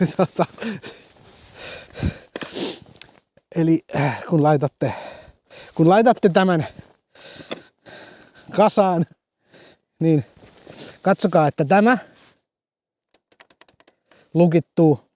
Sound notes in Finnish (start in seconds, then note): 0.0 naurua; 4.9 huokaus